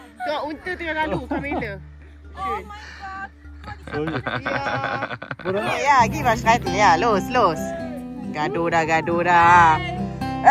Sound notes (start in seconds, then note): 2.6 speaking German; 3.6 laugh